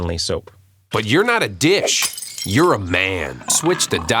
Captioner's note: dish breaking sound effect